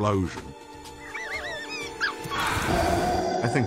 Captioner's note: squeaking